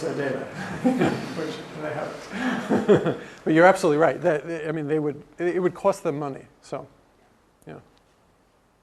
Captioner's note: laugh